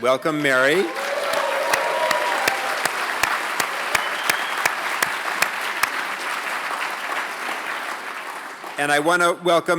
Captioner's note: applause